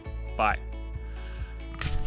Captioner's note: click